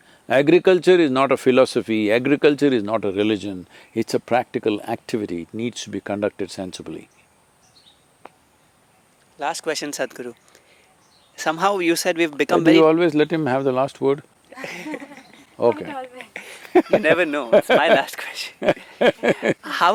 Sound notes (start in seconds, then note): 14.5 laughter; 14.5 Sadhguru laughs